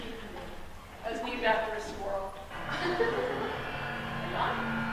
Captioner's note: laughter